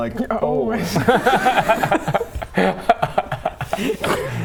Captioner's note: beating a dead laughter